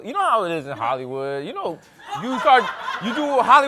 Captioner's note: laughter